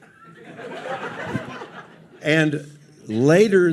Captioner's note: audience laughs